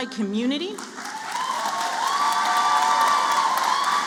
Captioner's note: applause